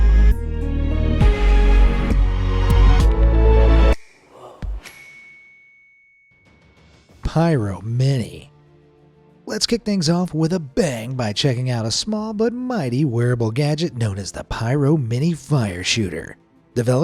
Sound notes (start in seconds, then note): 0.0 light suspenseful music; 4.8 bell dings